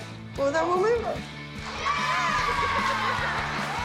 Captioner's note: cheering